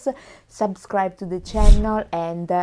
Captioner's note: air whooshes